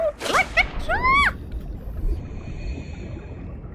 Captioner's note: screams